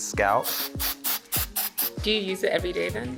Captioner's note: spraying